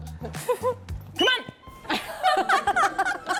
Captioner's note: whistle sound